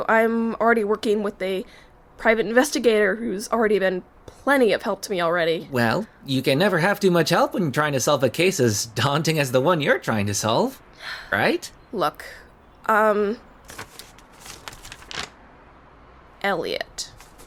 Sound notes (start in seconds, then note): 11.0 sigh; 13.6 paper rustling